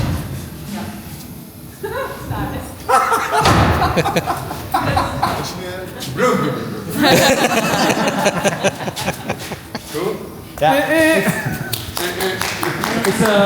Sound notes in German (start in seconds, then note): 5.0 gelächter; 11.7 applaus